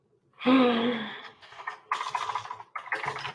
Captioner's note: sighing